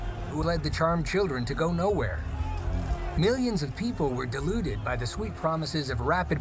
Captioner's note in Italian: il pubblico esulta